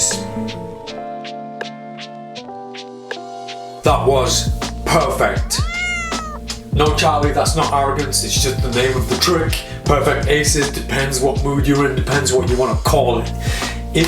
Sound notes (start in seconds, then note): 0.1 cool music; 5.4 cat meows